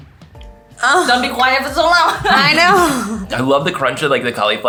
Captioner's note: laughing